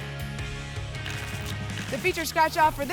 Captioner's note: tickets shuffling